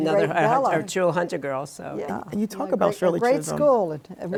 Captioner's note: laughs